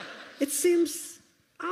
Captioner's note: laughter